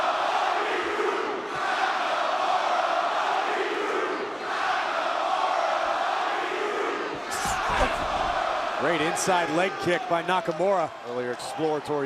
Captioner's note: crowd cheering